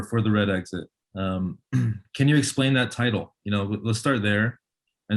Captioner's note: clears throat